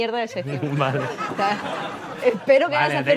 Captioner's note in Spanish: Risas